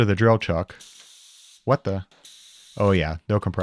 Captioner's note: air hissing